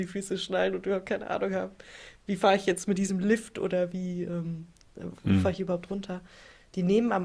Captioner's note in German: räuspern